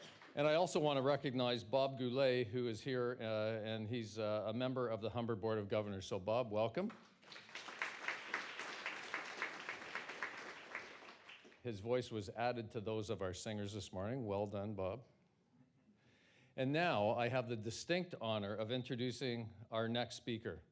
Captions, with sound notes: And I also wanna recognize Bob Goulais, who is here, uh, and he's a member of the Humber Board of Governors. So Bob, welcome. [applause] His voice was added to those of our singers this morning. Well done, Bob. And now I have the distinct honour of introducing our next speaker,